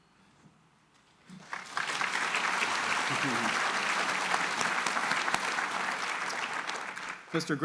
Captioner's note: applause